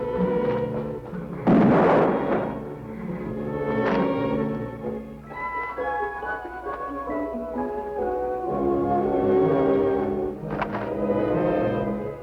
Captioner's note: gunshot